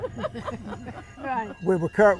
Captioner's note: laughing